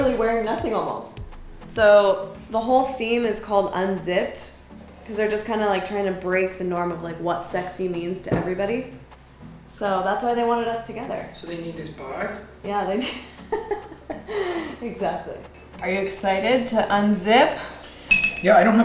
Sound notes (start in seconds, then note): 13.0 laughs